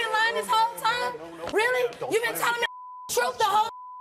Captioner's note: beep